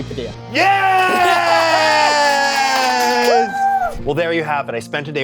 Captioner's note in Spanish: aplausos